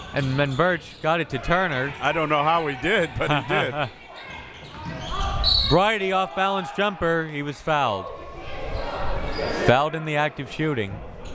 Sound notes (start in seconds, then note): 2.6 laughing